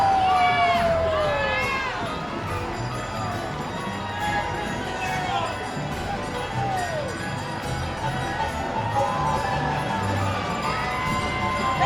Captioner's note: laughing; holiday music